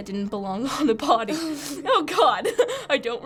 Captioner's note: laughing